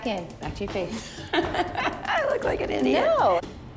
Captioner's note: laughs